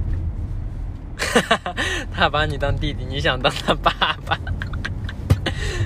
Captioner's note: wHEEEZE; whEEZE